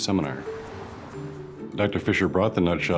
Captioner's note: car whooshing